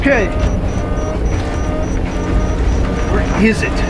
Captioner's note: alarms blaring